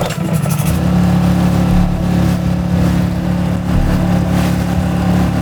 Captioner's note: engine revving